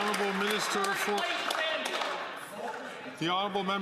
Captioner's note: some Applause